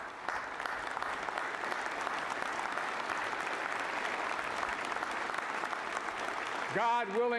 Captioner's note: applause